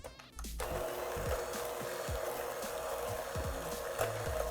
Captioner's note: mixer whizzing